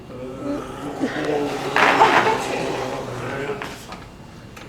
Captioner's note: gargles the liquid nitrogen and makes gargling sounds